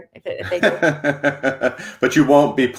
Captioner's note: chuckles